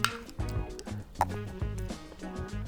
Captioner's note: clicking